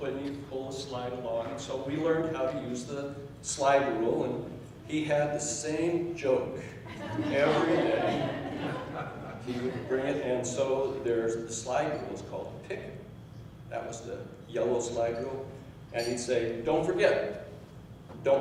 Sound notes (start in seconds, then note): 6.9 laughing